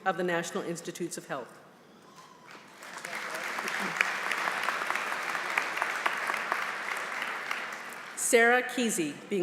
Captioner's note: applause